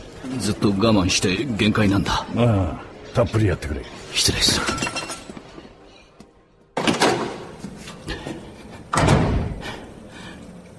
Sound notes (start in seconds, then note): 6.6 restroom door opens; 8.9 restroom door closes